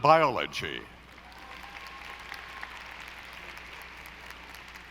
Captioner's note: audience applauding